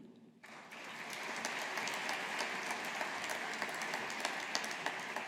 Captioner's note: audience applauding